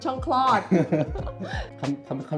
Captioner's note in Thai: เสียงหัวเราะ